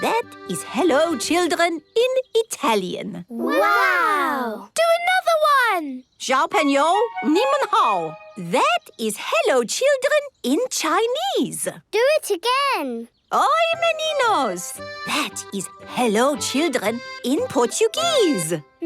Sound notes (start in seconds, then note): 6.1 speaking Chinese; 13.2 speaking Portuguese